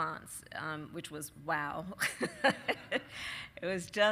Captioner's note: laughs